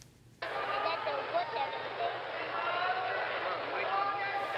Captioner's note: crowd cheering